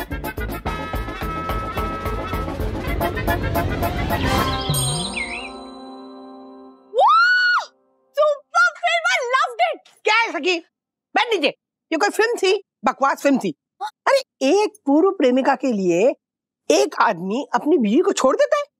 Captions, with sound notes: (birds chirping) - (screams) - Super. Loved it. Sakhi, what is this? Sit down. That was a disgusting film. A man leaves his wife for his ex-girlfriend.